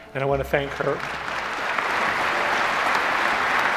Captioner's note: applause